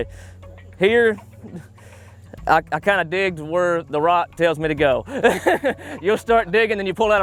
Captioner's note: laughter